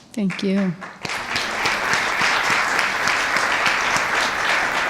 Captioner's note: audience applauds